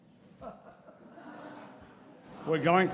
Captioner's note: audience laughs